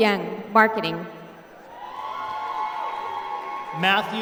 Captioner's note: applause